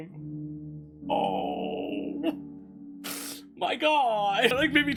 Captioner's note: sniffles